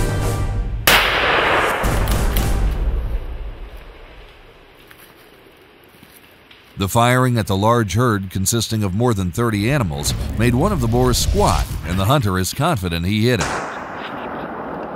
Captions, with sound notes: [gunshot] [shuffling] The firing at the large herd consisting of more than 30 animals made one of the boars squad and the hunter is confident he hit it. [gunshot]